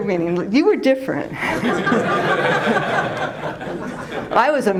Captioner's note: laughter